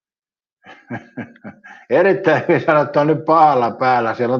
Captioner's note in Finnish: naurua